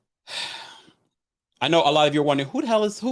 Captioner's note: sighs